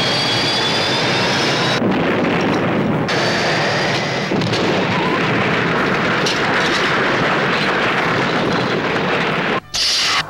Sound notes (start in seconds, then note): 2.4 loud crash